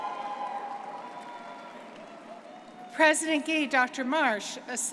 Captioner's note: graduates cheering